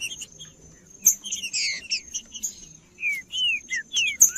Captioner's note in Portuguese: trinca ferro cantando